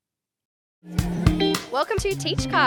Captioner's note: upbeat music; people chattering